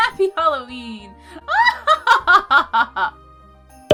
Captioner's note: evil cackle